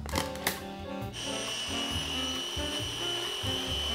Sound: whirring

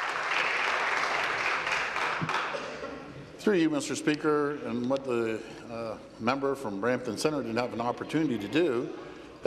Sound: applause

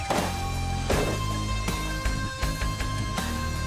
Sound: gunshots

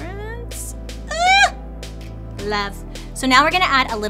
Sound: squeals

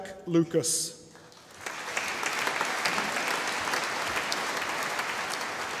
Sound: audience applauding

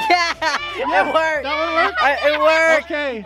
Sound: cheering

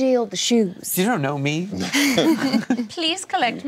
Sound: laughing

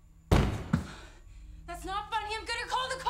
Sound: loud bang on door

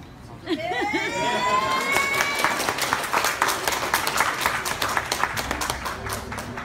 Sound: audience are exclaiming and applauding

